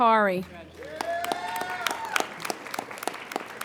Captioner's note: applauding